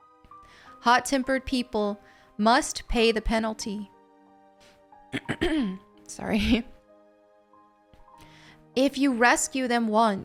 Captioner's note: clears throat*. Sorry